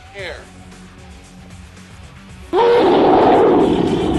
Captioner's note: roar!; roar! roar!